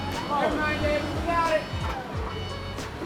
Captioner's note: engine revving